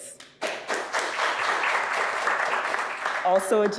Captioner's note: audience clapping